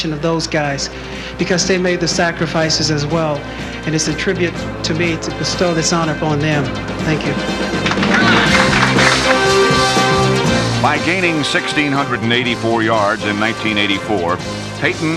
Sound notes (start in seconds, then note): 7.4 applause